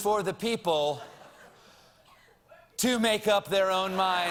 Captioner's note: deep breath